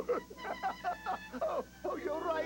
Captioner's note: cry■ng